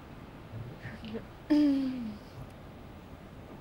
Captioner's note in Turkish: Boğazını temizledi